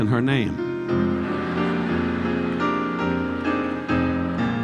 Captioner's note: audience laughing; relaxing piano music continues